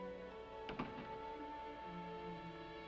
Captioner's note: soft music; doors close